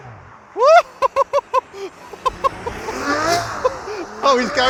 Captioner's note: laughs